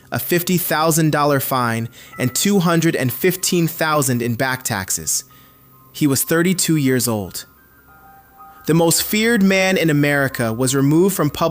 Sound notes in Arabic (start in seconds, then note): 8.1 نغمة